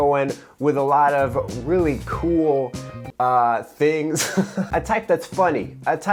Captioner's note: laughs